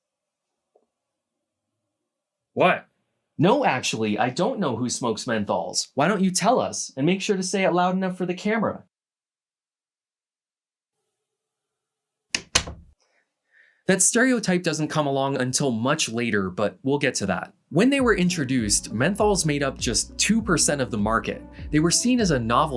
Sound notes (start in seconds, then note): 10.4 door closes